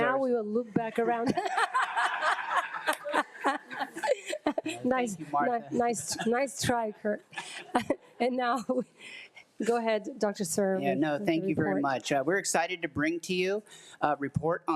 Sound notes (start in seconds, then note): 1.2 laughing